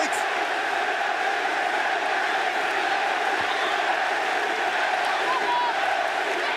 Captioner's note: crowd cheering